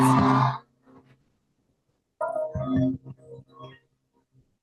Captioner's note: cheering